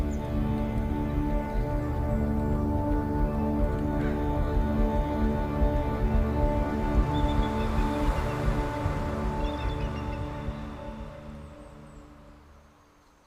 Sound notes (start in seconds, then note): 8.0 birds calling